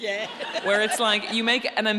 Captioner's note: laughing